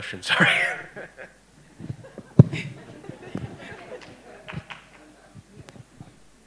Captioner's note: laughter and applause